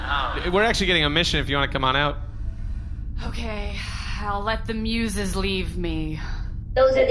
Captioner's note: sighing